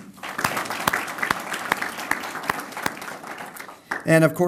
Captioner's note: applause